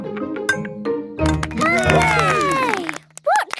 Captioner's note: all cheer